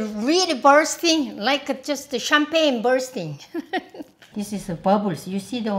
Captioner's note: laughs